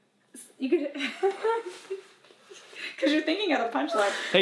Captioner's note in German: kichert